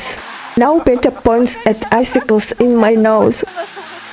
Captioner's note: laugh